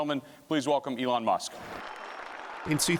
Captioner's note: audience applauding